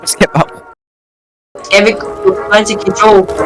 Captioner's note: laughs